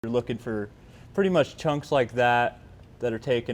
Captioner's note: none